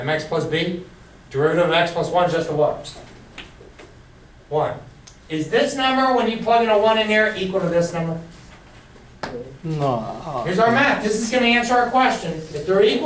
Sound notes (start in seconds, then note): 9.7 voiceover